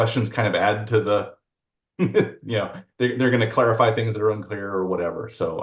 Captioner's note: chuckles